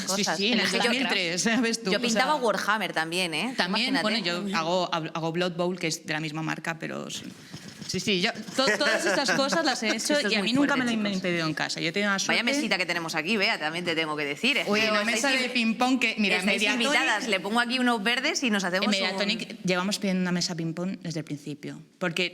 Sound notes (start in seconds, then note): 8.5 laughs